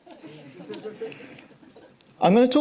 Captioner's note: audience laughing